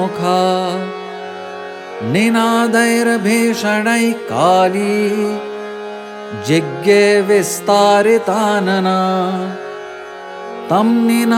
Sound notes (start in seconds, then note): 9.0 hum